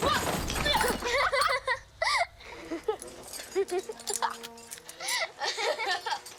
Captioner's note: Aurora laughing; Kenny shouting